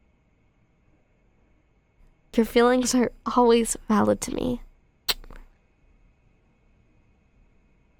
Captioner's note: soft kiss